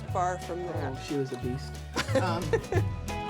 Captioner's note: laughs